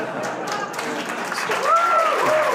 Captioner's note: laughter; applause